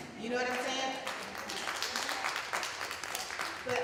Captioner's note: applause